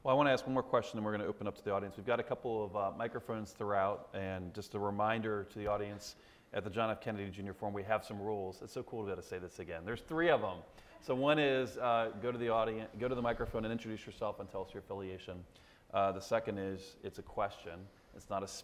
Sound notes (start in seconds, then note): none